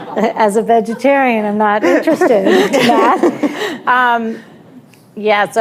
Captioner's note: laughter